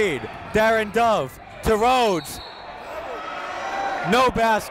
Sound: whistle blows

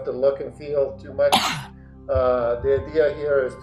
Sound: person coughing

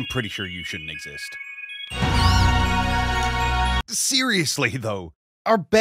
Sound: Brute Bonnet screams

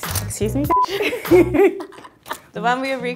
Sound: laughter

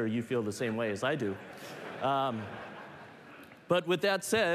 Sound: laughter

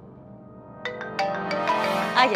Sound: phone ringing

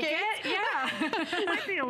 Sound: laughter

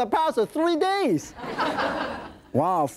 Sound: audience laughing

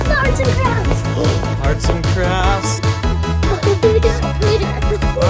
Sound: gasps; children giggling

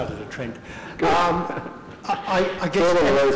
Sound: laughter

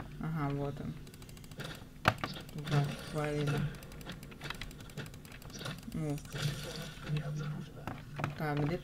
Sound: clicks

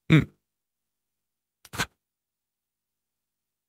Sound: throat clearing

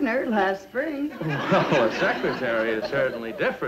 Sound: audience laughs

